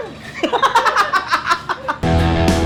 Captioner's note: laughter; outro music